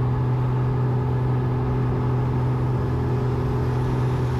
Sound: plane whirs

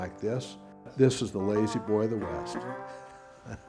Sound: laughing

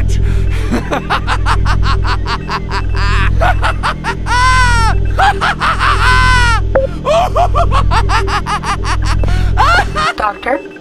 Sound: maniacal laughter

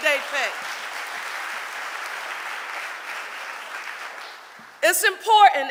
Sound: audience applauding

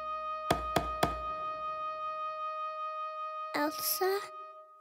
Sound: knocking

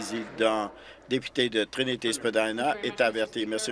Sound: applause

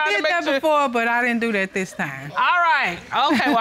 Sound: chuckles

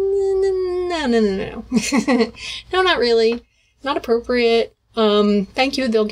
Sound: hahaha

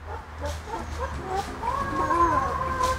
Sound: chicken noise in background

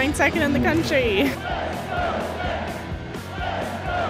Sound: chanting

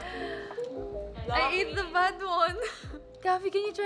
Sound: laughs

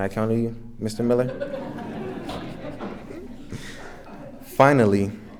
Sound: everyone laughing

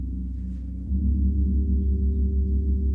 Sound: low gong

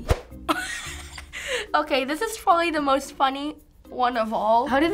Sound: giggling

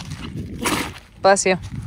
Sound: Camper sneezes

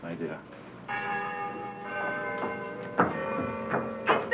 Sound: bells tolling

